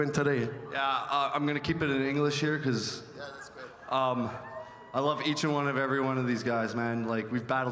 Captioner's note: speaking French